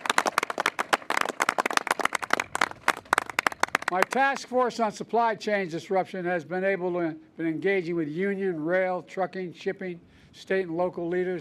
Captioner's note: applause